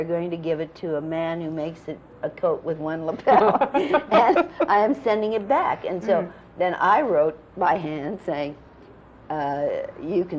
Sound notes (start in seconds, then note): 3.2 laughter